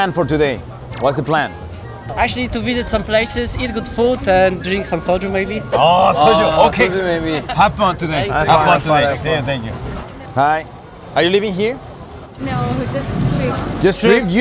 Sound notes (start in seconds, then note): 0.8 fluent English